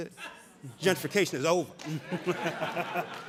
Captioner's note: audience laughing